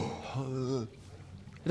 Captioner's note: hrrgh